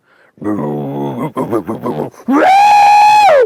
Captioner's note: grunting; screaming